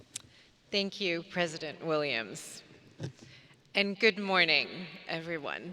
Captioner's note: none